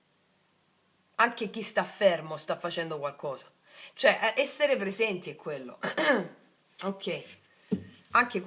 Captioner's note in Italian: schiarire la voce